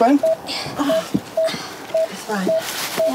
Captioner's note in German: Sie ächzen